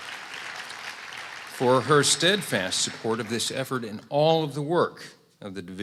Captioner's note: applause